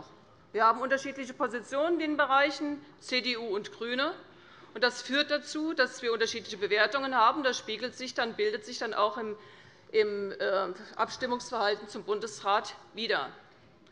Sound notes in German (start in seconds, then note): none